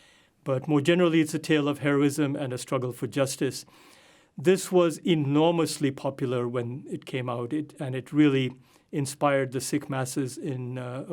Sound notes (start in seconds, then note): none